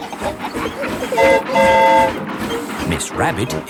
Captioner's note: train whistle toots